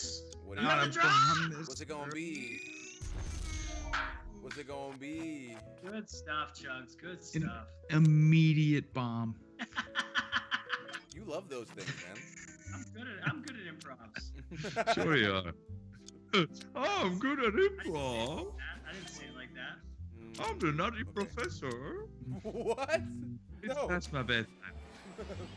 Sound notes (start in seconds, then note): 9.6 laugh